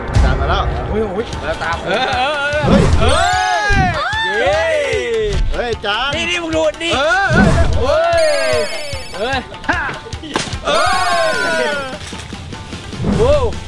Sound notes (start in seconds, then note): 1.7 cheering; 2.6 wind blowing; 4.0 cheering; 6.9 cheering; 12.3 japanese instrument playing